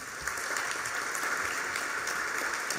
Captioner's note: applause